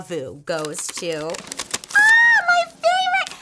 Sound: paper rustles

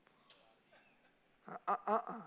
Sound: congregation laughing

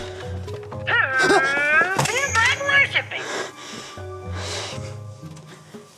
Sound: computer Voice

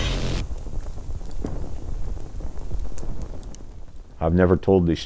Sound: fire sizzling

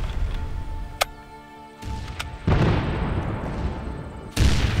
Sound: bayonet clicks

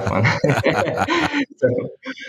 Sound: laughter

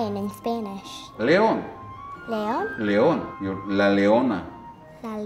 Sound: speaking foreign language

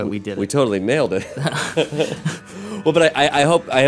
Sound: laughter

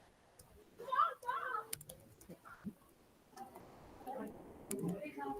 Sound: speaking faintly off mic

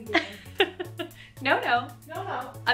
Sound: giggling

